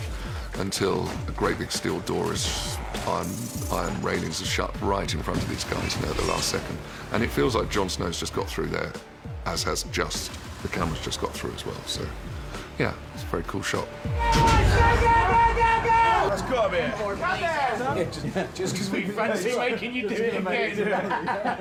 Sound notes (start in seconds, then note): 14.0 yells; 21.1 laughs